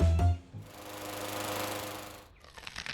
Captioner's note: lawnmower running